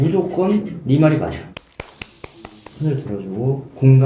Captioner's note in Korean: 박수 갈채